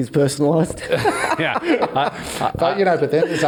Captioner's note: all laugh